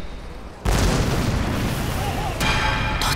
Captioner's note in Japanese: 爆発音